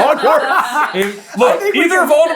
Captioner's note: team laughter